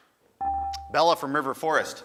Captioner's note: buzzer dings